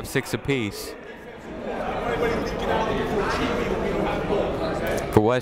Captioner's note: people talking in the crowd